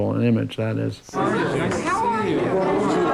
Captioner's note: crowd chatters